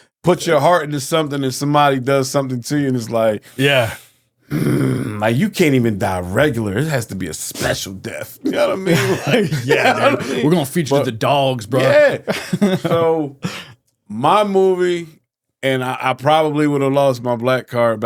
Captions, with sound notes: put your heart into something, and somebody does something to you, and it's like, (growling) like, you can't even die regular. It has to be a special death. You know what I mean? You're like, yeah. We're gonna feature the dogs, bro. Yeah. (laughing) So, my movie, and I probably would have lost my black card